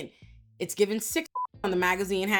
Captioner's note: beep